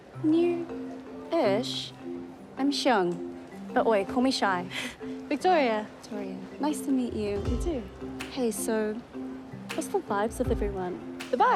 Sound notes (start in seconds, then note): 4.7 chuckles